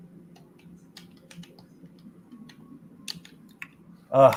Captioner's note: clicking